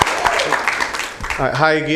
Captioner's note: applause